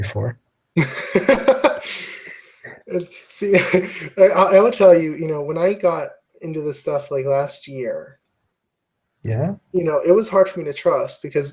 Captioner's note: laugh